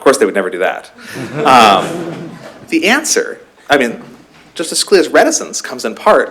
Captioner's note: laughter